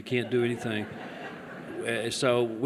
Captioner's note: laughter